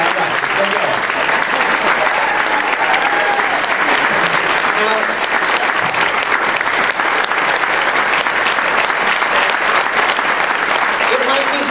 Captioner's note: cheers, applause